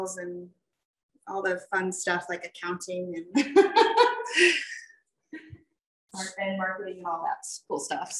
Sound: laughs

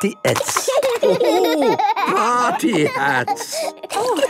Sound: laughing

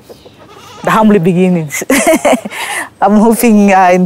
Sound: laughing

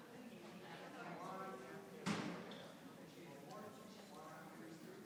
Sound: people chattering continues

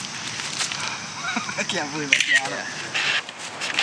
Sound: laughing

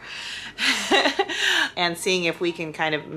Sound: laughs

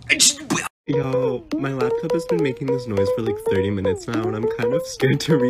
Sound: funney lil bouncey noises

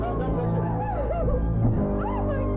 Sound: cries

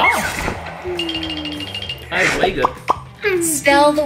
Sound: Duolingo ringing

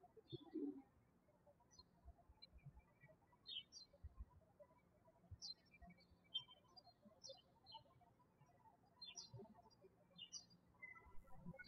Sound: birds chirping

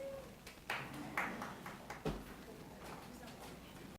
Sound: clapping

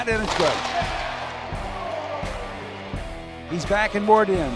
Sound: crowd cheering

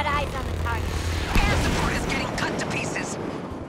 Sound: voice on radio

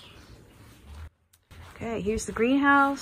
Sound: more sparrows chirp

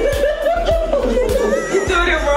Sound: laughing

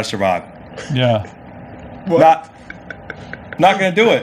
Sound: laughs

